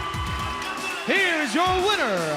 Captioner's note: crowd cheering; bell ringing